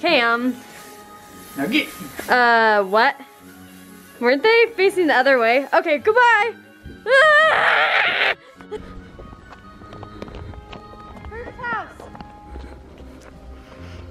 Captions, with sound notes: Okay, I'm-- Uh, what? Weren't they facing the other way? Okay, goodbye! (screams) Through this house!